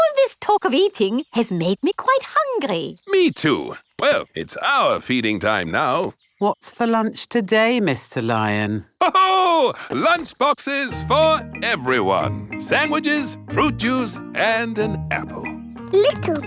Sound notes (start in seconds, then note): 9.0 laughs